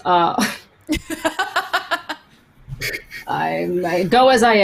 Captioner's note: laughs